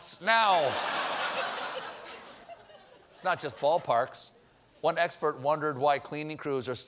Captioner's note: laughter